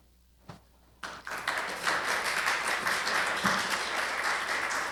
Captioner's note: applause